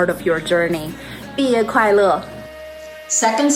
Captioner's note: speaking in foreign language